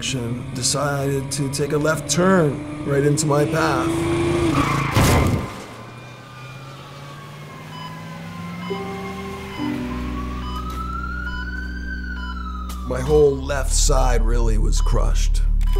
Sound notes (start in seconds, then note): 4.8 crash; 8.7 monitor beeping